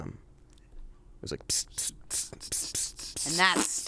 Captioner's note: hisses